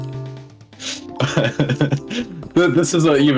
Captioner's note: laughing but not pressing buttons anymore